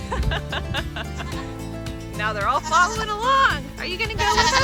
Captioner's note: laugh